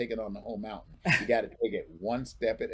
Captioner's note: chuckles